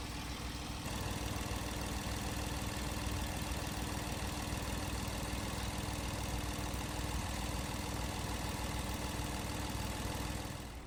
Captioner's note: air conditioning